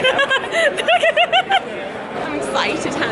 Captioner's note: laughing